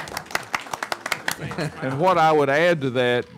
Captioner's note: laughing; clapping